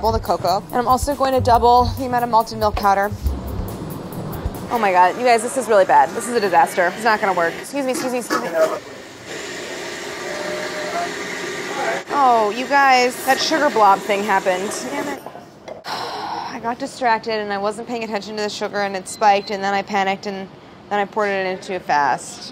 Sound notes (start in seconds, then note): 9.9 whirring; 15.8 sighing